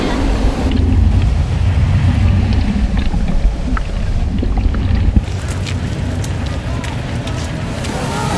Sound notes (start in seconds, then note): 0.6 muffled underwater sounds of boots stepping on the deck